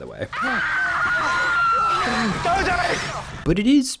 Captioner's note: woman screaming